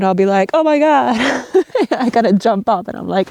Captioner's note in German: lacht